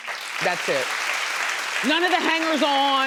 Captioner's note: audience applauding